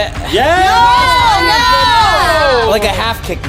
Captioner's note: yelling